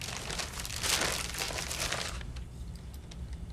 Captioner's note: bag crinkling